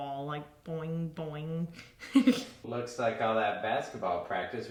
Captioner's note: laughs